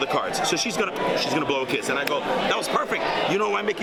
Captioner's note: lips smack